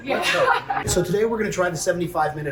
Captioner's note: laughter